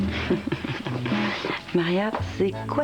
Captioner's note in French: Rire